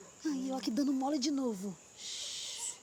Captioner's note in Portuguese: sussurro